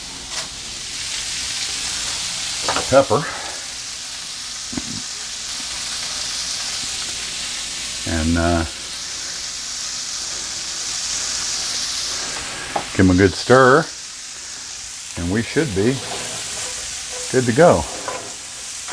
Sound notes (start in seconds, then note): 0.0 sizzling sound in background; 5.1 sizzling sound in background